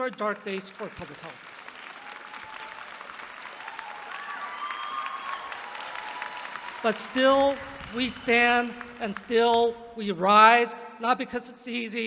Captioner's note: applause